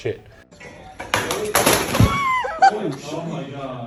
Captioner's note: metal clanging; laughing